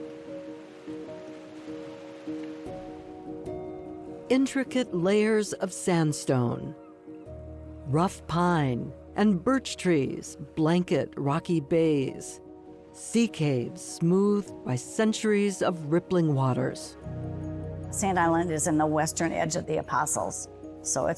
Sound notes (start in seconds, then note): 0.2 peaceful, flowing piano; 6.6 bird calling